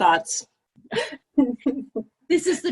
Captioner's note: laughter